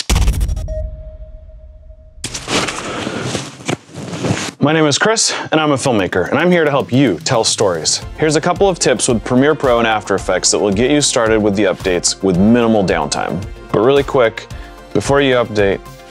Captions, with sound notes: [thud and beep] [rustling] My name is Chris and I'm a filmmaker, and I'm here to help you tell stories. Here's a couple of tips with Premiere Pro and After Effects that will get you started with the updates with minimal downtime. But really quick, before you update: